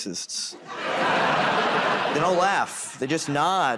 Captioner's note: laughter